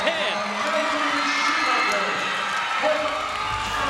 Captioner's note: cheering